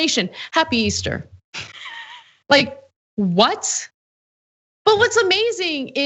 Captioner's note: laugh